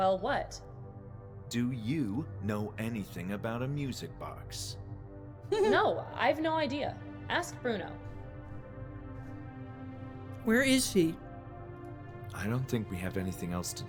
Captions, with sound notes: [laughing] Where is she?